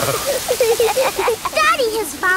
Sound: laughing

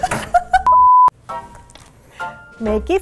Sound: laughs; TV sine tone

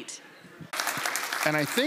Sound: applause

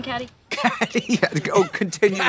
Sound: Katya laughs

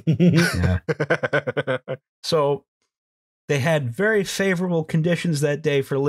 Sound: laughter

